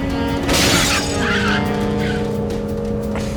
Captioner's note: car crashing